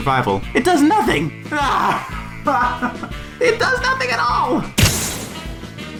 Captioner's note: short, mad laughter